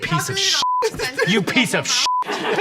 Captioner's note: beep; beep